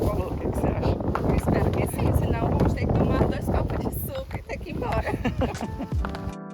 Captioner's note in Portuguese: risadas